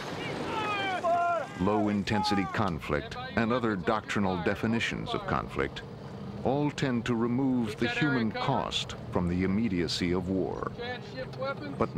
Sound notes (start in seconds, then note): 1.8 voiceover